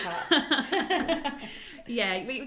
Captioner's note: both laugh